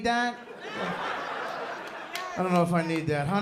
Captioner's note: laughter